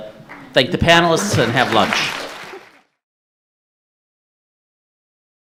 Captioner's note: audience applauding